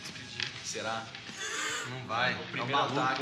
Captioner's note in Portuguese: risada